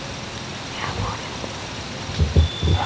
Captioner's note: whispering